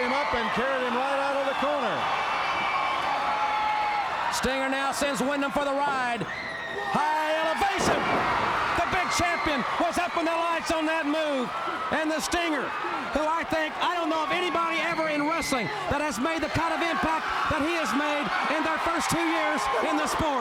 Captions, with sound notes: HIM RIGHT OUT ON THE CORNER. >> [CROWD CHEERING] >> STINGER NOW SENDS WINDHAM FOR THE RIDE. HIGH ELEVATION. >> [CROWD CHEERING] >> THE BIG CHAMPION WAS UP IN THE LIGHTS ON THAT MOVE. AND THE STINGER WHO I THINK--I DON'T KNOW IF ANYBODY EVER IN WRESTLING THAT HAS MADE THE KIND OF IMPACT THAT HE HAS MADE IN